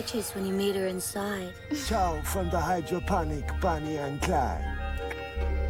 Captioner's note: clicks tongue